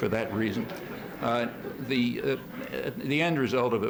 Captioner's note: laughter